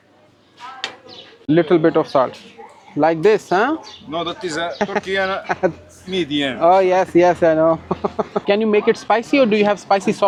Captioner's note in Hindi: हंसी